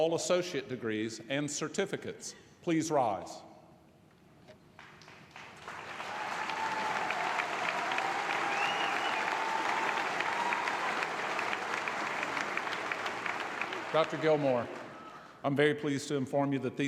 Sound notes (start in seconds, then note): 6.5 applause